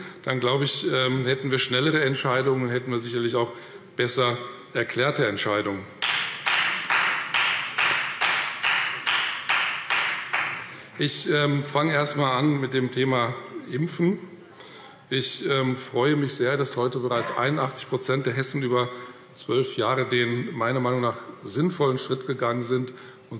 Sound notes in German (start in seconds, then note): 6.0 Beifall Freie Demokraten